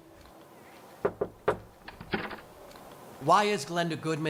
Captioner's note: knocking on door